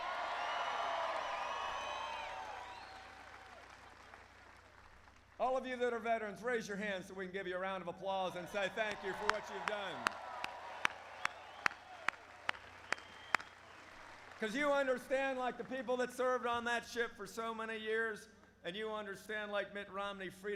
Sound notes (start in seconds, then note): 0.0 applause; 10.3 applause